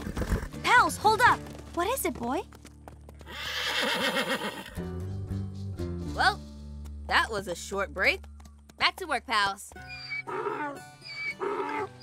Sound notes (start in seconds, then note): 3.2 whinny; 9.8 hee-haw